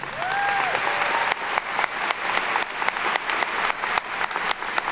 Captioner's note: attendees cheer and clap